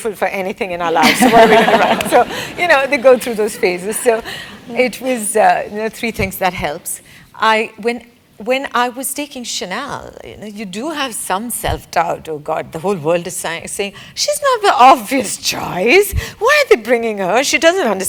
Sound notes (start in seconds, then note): 1.0 laugh